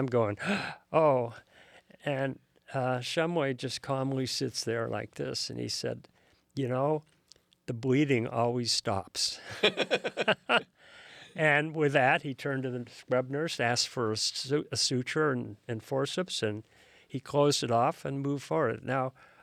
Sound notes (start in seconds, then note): 9.4 both laugh